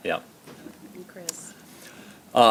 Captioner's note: laughter